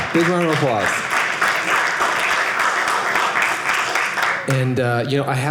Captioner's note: audience applauding